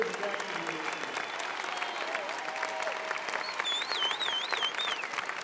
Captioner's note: applause, cheering